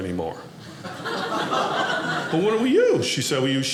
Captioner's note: audience laughing